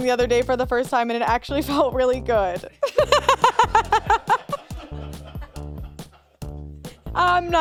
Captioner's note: laughs